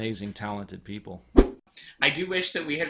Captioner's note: whoosh